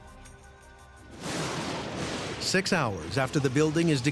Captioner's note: thunder crashes